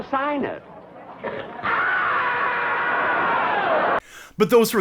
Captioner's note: scream of frustration echoing from the dark recesses of his soul